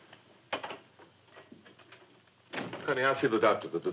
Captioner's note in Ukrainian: двері відкриваються, закриваються